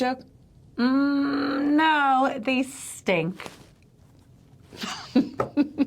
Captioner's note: chuckles